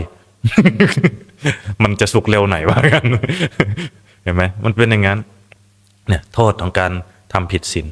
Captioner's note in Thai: เสียงหัวเราะ